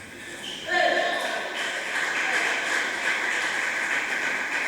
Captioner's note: applause